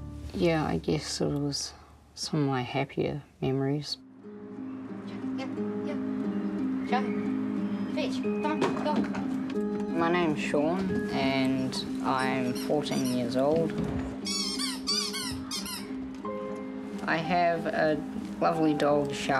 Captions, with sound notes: Yeah, I guess it was in some way happier memories. (DREAMY MUSIC) Here. Here. Chaka. Fetch. Go on. Go. My name is Sean, and I'm 14 years old. (TOY SQUEAKS) I have a lovely dog, Chaka,